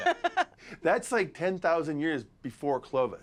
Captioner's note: laughs